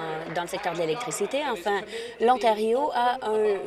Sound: applause

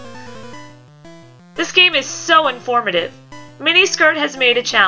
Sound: sarcastic

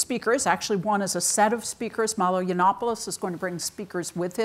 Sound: none

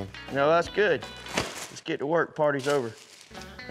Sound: pop

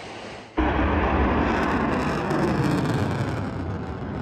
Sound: rocket whooshing

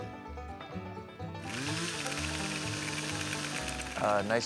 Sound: whirring effect

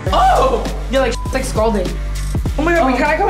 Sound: beep

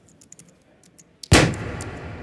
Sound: balloon bursting

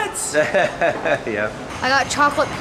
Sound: laughing

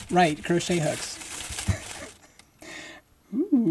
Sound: paper crinkling, laughing

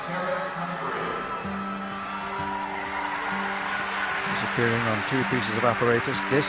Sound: crowd cheering

